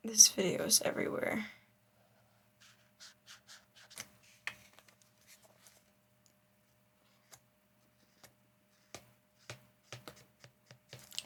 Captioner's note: silence